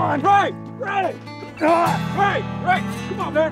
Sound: Ray grunts

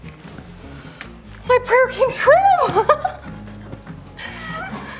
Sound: laughs

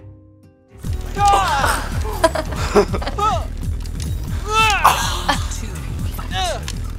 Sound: video game Sounds

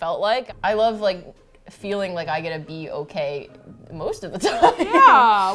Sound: laughs

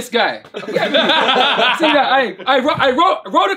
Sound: all laughing

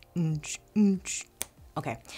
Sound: hums tune

